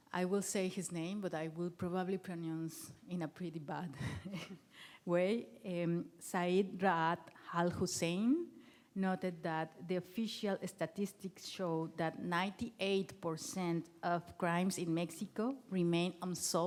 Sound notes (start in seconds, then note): 4.0 chuckles